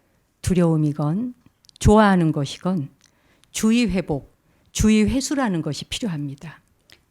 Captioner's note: speaking in Korean